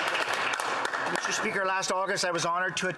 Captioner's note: applause